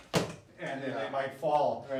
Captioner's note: thumps